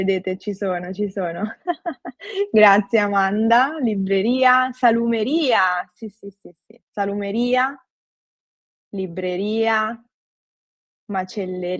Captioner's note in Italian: risate